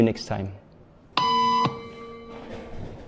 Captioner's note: beep